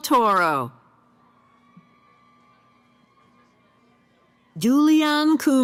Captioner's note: cheering